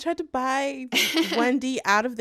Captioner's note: laughter